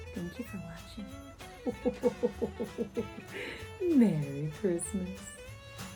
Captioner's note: ho-ho-ho chuckles